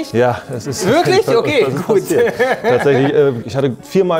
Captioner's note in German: Lachen